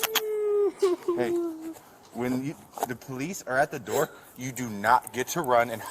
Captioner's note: crying